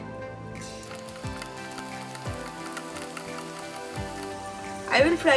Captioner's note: chicken sizzling